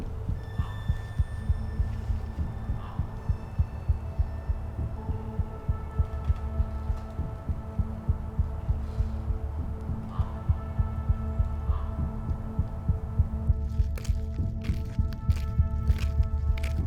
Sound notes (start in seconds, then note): 0.8 threatening ambient music with pulsing rhythm; 10.0 A bird caws; 10.0 threatening ambient music with pulsing rhythm; 13.5 threatening ambient music with pulsing rhythm; 13.8 footsteps on rocky ground